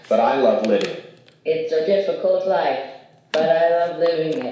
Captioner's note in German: Sprachgerät